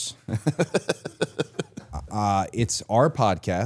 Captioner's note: Chad laughs